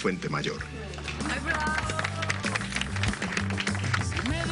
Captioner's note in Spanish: Aplausos